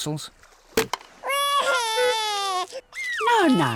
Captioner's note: wailing